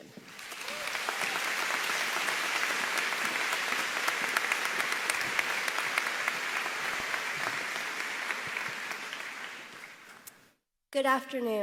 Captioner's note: applause